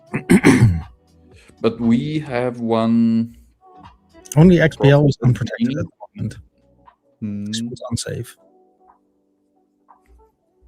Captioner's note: clears throat and cough